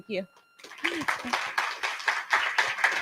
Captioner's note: applause